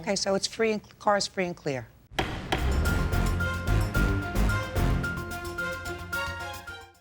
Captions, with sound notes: - Okay. So, the car's free and clear? (gavel thudding) (suspenseful music)